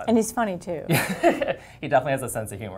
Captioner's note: laugh